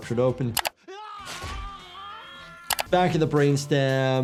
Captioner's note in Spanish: persona gritando